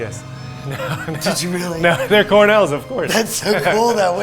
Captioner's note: laughing